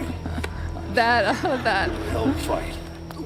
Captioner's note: laughs